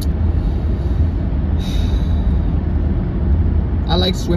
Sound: exhales

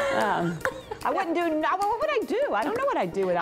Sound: laughs

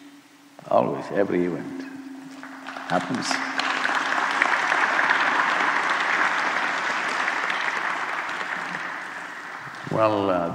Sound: applause

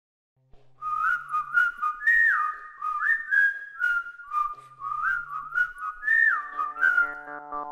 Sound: whistling; instrumental music

